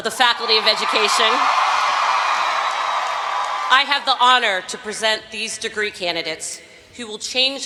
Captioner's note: cheering